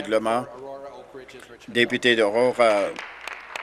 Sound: applause

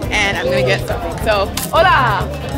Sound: speaking in Spanish

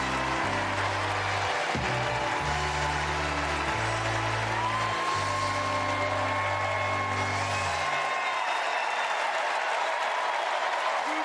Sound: cheers and applause

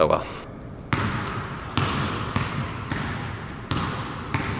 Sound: basketball thuds on court

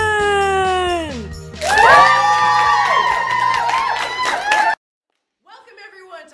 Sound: applause

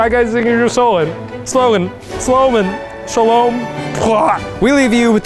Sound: gagging

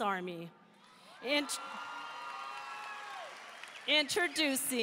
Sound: audience cheering

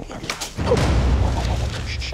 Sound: crack

